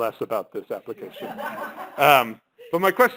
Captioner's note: laughter